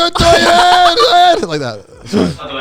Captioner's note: blabbering, laughing